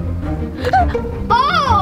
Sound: gasps

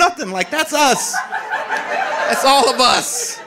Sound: audience laughing

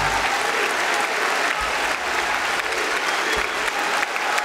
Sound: applause

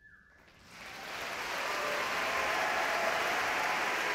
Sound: audience clapping

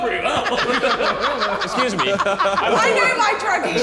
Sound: all laughing

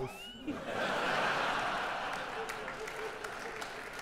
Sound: audience laughing

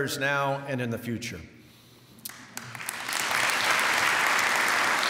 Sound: applause

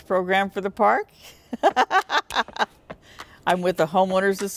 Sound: laugh

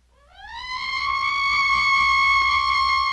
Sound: bat shrieks

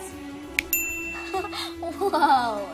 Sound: snaps

